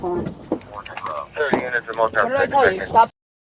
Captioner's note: radio chatter